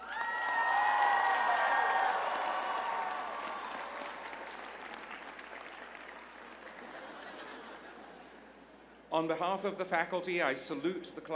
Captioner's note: applause; laughter